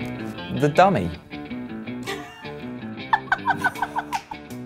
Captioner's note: upbeat music; laughs